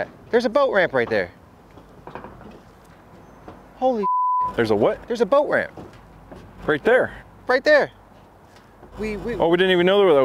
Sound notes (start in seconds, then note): 4.0 beep